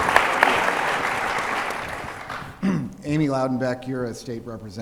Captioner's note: applause